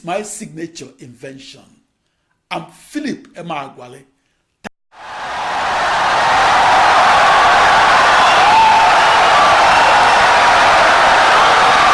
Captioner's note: wild applause and cheering for 17 seconds